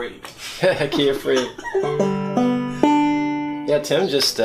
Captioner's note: laughter